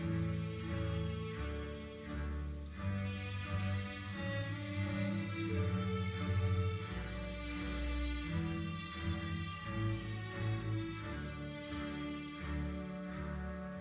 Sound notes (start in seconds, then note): none